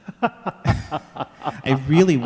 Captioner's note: laughing